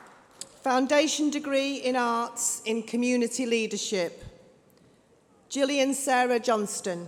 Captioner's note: applause